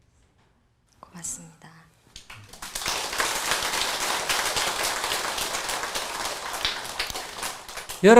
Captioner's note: applause